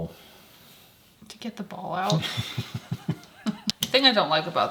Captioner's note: laughing